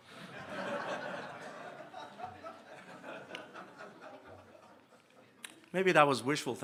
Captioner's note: laughter